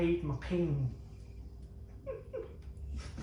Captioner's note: giggles